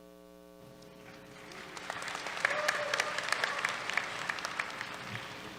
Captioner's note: applause